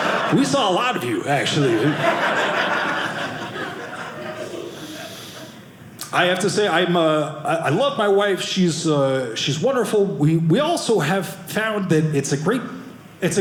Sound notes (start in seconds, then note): 0.9 audience laughing